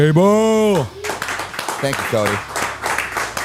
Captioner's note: Cody and crew clap